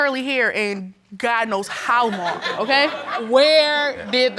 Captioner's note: audience chuckles